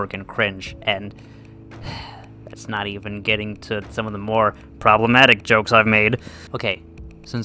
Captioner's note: sighs